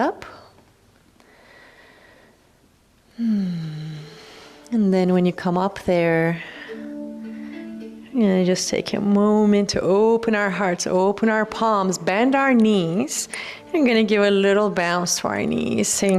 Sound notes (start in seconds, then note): 3.1 sighs